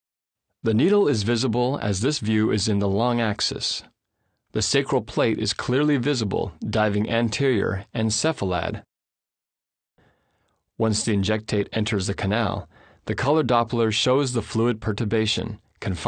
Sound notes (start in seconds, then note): 0.8 voiceover